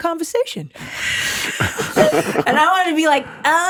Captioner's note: hosts chuckle